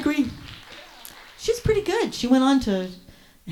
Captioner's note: audience applauds